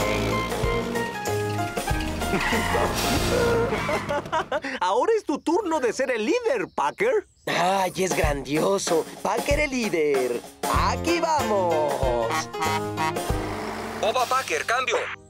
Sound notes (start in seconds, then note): 12.2 honking Horn